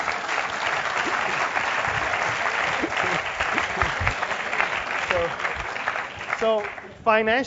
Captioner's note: laugh; applause